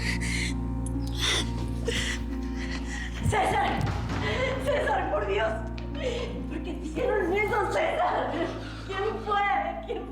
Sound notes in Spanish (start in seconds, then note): 2.5 sollozos